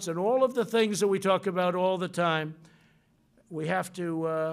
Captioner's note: none